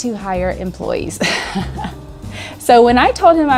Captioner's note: chuckles